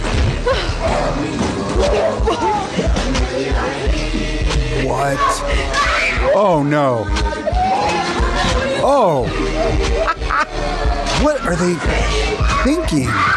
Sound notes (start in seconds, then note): 0.2 people chuckling; 5.7 kid screaming